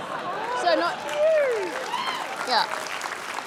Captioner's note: laughter; applause